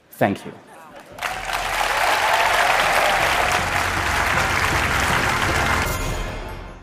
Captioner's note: applause